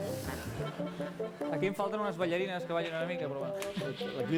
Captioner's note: non-english speech